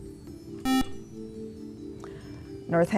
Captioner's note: beeping